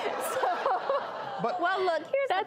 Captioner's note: laughing